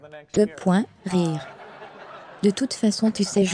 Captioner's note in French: rires